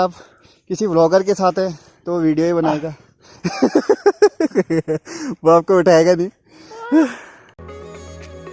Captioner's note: laughs; laughs